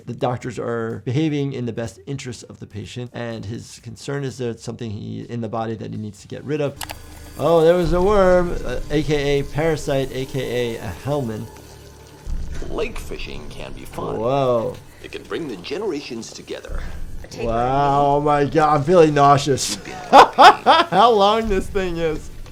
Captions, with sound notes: The doctors are behaving in the best interest of the patient, and his concern is there's something in the body that he needs to get rid of. (mouse clicking) Oh, there was a worm. AKA parasite, AKA a helminth. (worm squelching) - Lake fishing can be fun. - Whoa. - It can bring the generations together. - A tapeworm. - Wow, oh my God, I'm feeling nauseous. (laughs) How long this thing is.